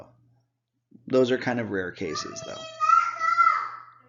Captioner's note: child shouting